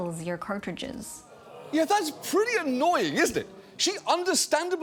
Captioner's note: audience groaning